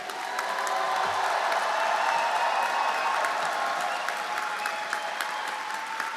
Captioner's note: everyone applauding and cheering